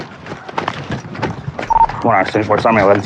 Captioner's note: radadio b beeeeps